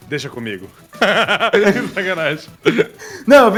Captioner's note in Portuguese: Risadas